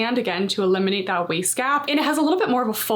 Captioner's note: none